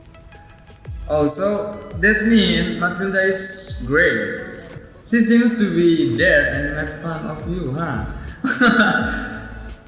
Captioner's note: hhaahhahah